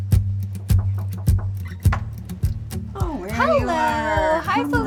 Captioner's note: knocking at door